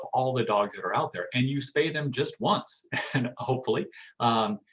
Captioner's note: chuckling